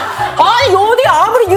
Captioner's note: haha